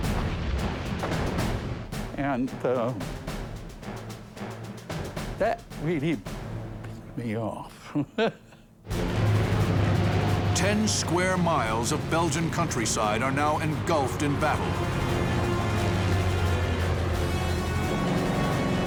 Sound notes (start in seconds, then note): 4.3 whispering; 7.8 chuckles